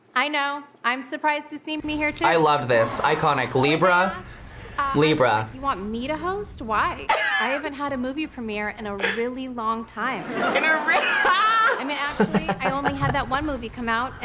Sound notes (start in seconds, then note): 7.3 laughs; 10.2 laughs